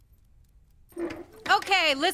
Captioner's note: dog door creaks